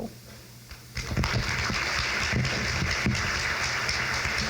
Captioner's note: crowd claps